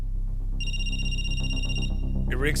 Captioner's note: phone rings